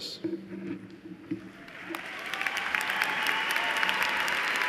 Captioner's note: cheers and applause